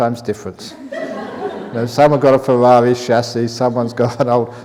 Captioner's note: laughter